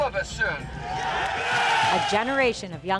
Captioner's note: cheering